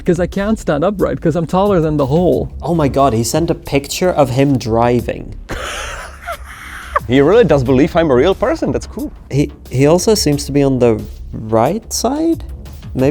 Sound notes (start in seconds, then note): 5.5 laughing